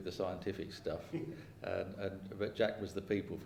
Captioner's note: laughing